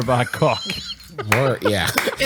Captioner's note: laughs